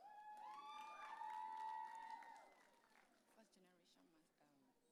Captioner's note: audience cheering